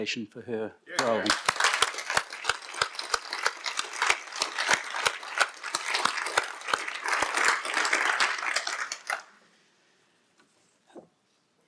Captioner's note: applause